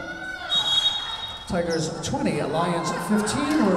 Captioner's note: whistle blowing